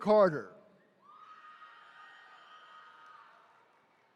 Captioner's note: attendees cheering